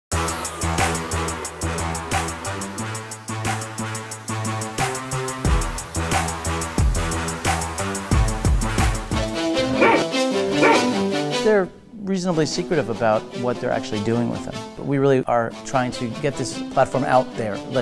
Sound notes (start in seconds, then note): 0.0 energetic music; 10.5 dog barks